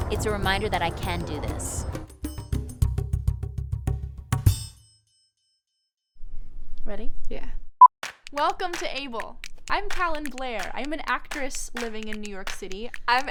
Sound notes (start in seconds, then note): 8.5 beep